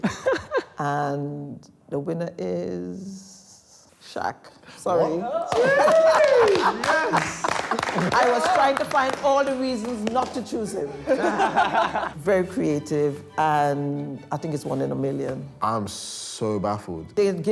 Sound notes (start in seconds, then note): 5.2 cheers; 10.8 group laughs